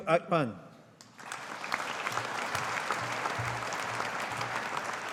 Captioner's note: audience applauding